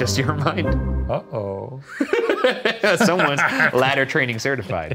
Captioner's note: laughing